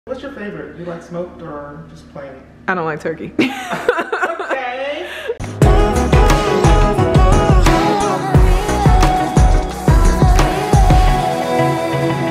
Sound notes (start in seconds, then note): 3.4 laughing; 3.4 laughs; 5.4 uplifting music